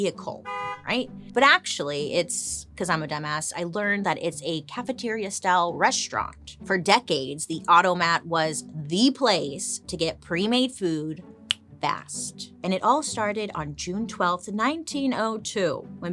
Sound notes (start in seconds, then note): 0.4 car horn honks; 11.4 clicks fingers